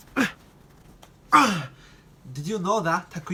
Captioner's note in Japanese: うなり声